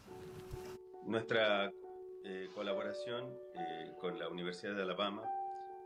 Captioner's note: spanish